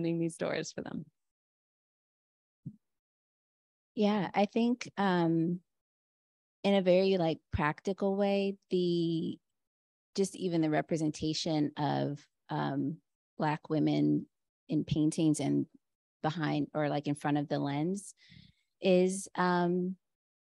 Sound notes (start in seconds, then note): 3.6 Chineze